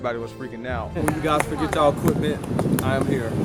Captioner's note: clapping